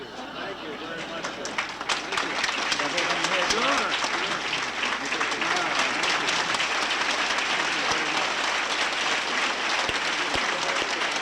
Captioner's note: applause